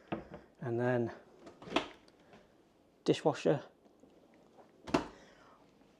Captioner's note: dishwasher door clunking